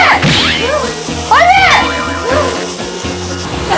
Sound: stumbling

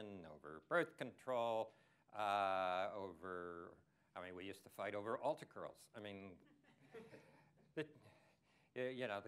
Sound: laughter

